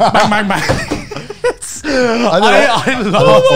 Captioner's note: all laugh